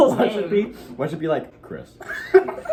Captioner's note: low voice; both laugh